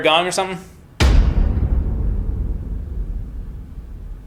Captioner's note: eerie booming